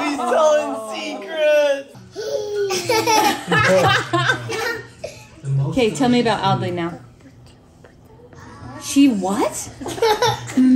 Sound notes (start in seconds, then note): 2.2 laughs